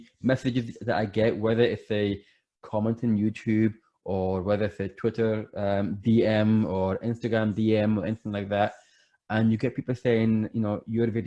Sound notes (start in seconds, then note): none